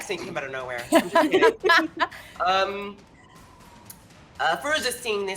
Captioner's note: characters laugh